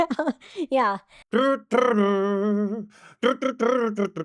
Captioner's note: humming